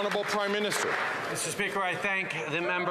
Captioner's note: some Applause